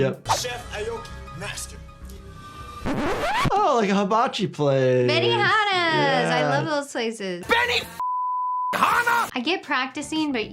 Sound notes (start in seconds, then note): 2.8 record scratching; 8.0 beep